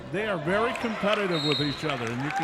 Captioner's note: referee whistling